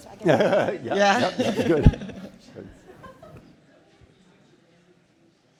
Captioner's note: laughing